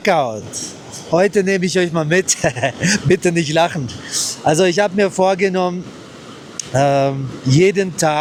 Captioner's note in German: gelächter